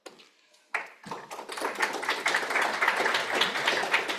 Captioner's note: applause